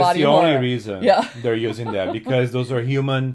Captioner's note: laughs